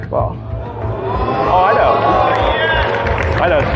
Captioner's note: cheering